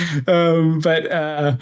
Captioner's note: laughs